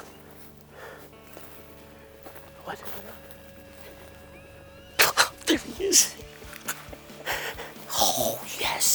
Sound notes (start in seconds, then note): 4.6 laughing